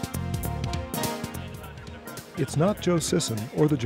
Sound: voiceover

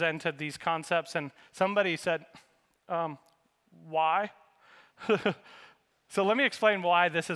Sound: laughs

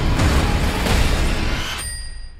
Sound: ding

